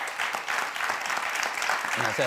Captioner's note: crowd clapping